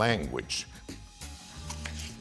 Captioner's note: cutting sounds